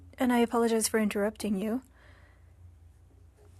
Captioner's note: speaking French